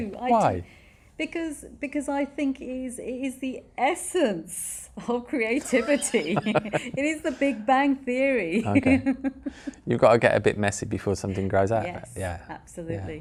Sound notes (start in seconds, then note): 5.6 both laugh; 8.5 laughs